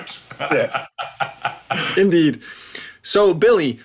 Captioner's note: laugh